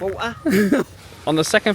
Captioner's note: laughing